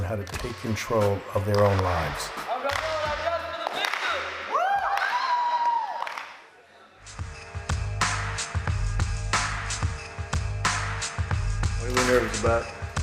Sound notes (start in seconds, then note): 4.4 students cheering; 7.0 upbeat music